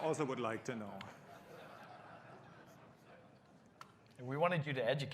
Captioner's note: laughter